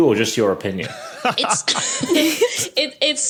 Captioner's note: laugh; laughs